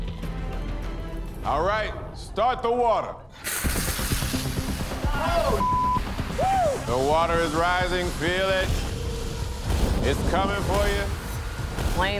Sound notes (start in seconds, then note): 3.4 water splashes; 5.5 beep